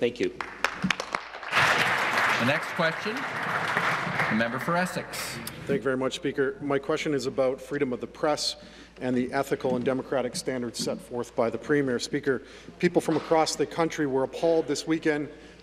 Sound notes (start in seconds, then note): 5.7 applause